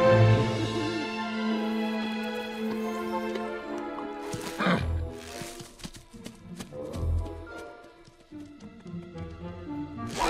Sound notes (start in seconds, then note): 5.3 grunts